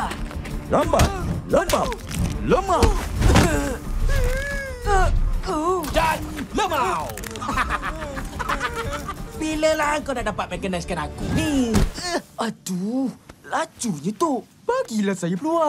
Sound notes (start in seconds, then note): 4.0 Amato groans, whimpers; 7.4 snickering